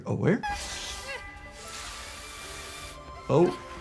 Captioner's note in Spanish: la serpiente silba